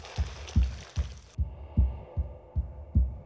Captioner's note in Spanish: latido del corazón, respiración fuerte